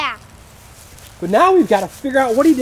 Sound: voiceover

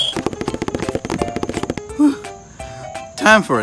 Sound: taps

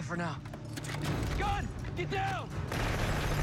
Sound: guns cock

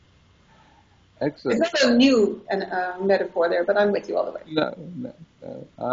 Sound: laughs

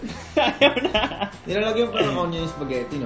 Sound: laughs

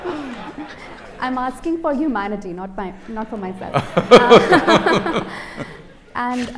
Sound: laughter; both laugh

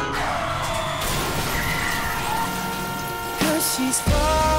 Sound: honking continues; tires screech, glass breaks

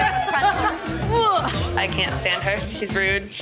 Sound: grunting

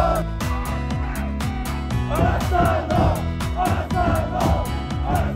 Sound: laughs

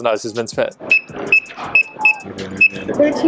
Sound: beeping

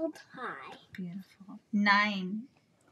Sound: whispers

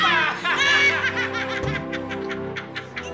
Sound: both laughing

